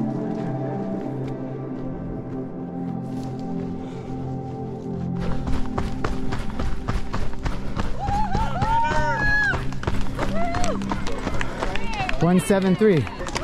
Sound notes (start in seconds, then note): 4.9 footsteps pounding; 7.8 crowd cheering